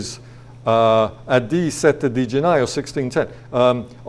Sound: speaking foreign language

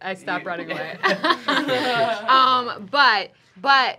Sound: laughing

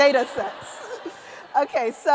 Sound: laughter

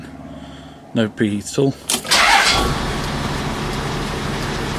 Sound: engine turns for one compression before starting

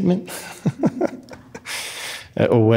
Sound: laughs

